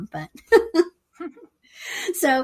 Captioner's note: chuckles